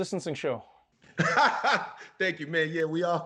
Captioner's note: laughs